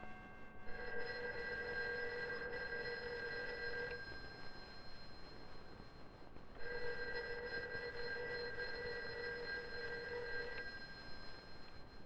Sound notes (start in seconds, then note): 0.7 telephone ring; 6.6 telephone ring